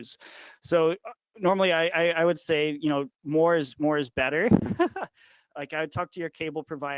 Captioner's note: laughing